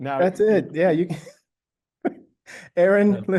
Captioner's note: laughs